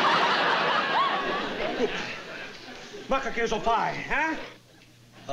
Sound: speaking italian

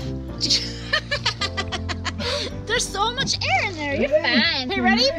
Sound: laughing

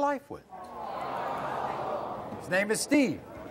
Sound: audience awes

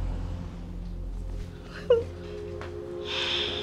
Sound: whimpers

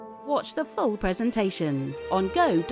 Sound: voiceover

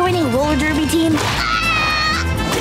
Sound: screaming; groaning

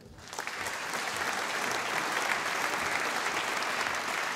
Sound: audience applauding

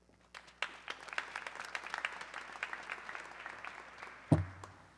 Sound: audience clapping

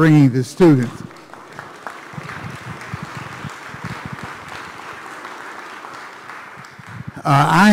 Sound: applause

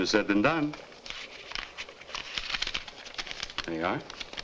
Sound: paper rustling

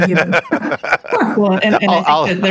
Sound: laughs

